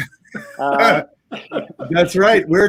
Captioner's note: laughing